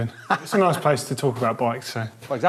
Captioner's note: laughs